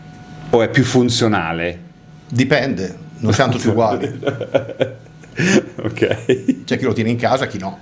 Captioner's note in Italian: risate